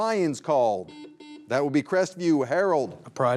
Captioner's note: buzzer buzzing